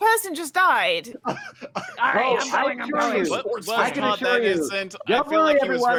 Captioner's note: group all yelling